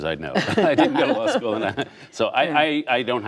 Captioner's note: laughter